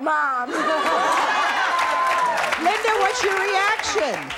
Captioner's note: both laugh